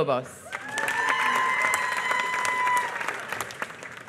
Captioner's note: applause